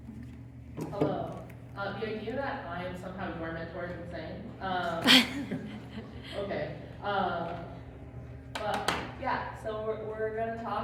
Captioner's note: laugh